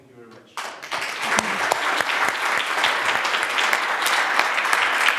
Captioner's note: audience applauding